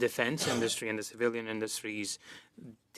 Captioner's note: speaking French